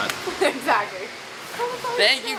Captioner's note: laughs